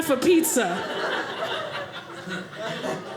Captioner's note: audience laughing